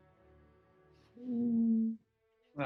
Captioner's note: horne/ dog whines